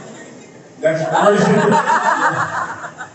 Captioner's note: laughs